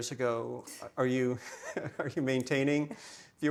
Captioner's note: chuckles; chuckling